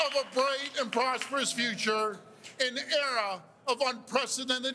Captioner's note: cheers and Applause